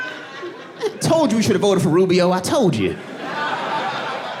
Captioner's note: audience laughing